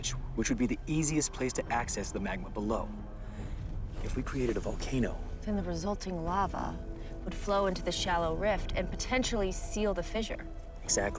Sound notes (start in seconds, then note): none